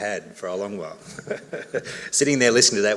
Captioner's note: laughs